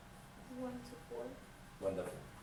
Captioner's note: voiceover